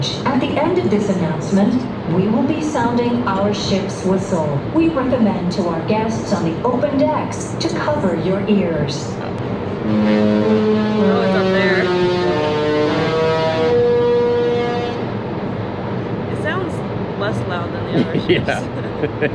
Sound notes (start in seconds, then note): 9.4 ship horn honking